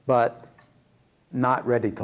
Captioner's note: none